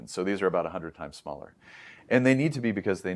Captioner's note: inhales